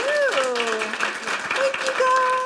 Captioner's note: applause